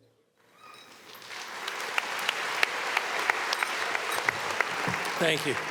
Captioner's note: audience applauding